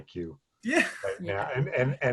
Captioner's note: laughs